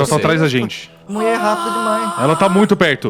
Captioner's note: screams